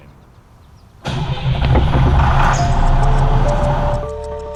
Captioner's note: car engine roaring; bright music